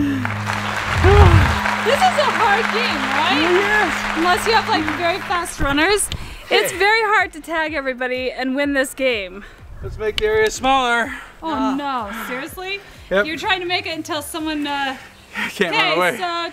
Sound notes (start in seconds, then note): 0.0 clapping